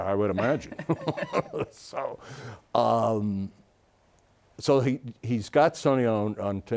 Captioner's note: laughs